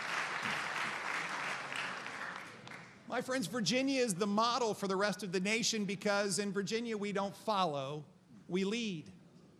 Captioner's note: applause